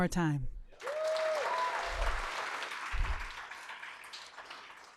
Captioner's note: applause